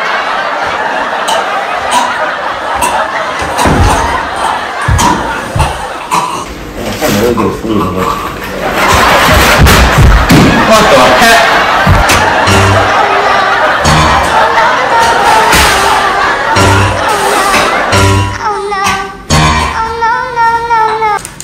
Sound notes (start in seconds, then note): 0.0 crowd laughs; 1.2 chokes; 2.6 still choking